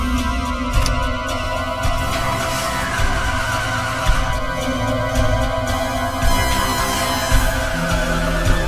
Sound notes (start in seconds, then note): 2.4 engine revving; 2.4 tires screeching